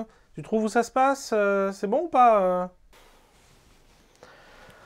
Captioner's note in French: Soupir